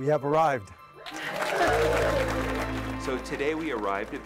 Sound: clapping

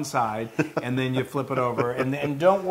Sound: laugh

